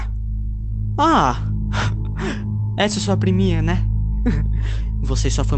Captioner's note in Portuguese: riso malicioso